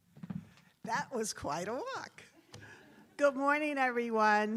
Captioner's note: attendees laughs